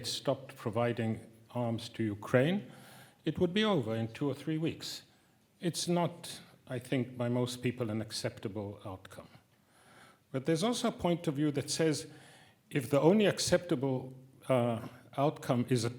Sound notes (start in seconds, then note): none